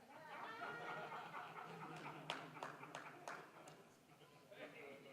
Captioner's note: audience laughing